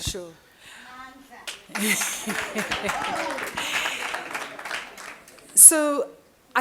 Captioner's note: applause